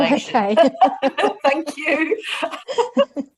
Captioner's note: laughs